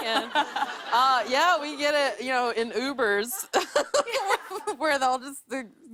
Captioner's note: laughter